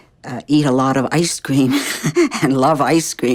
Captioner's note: laughing